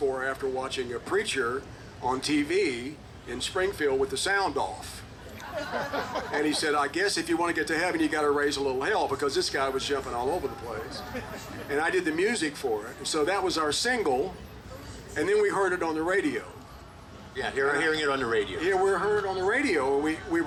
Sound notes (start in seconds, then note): 5.3 group laughing